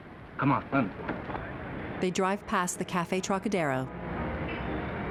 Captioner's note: traffic din; soft jazz music playing